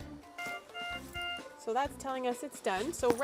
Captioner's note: machine beeping